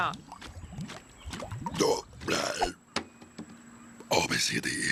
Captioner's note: owen belching